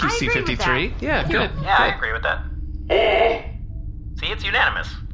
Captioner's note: Bargie groans